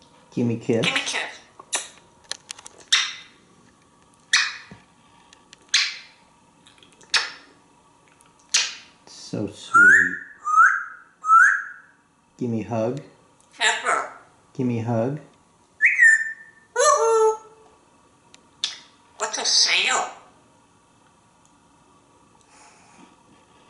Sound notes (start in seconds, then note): 9.7 whistling; 15.8 whistling and sound making